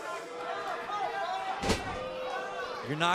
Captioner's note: crowd cheering